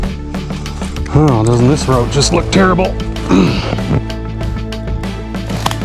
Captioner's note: grunt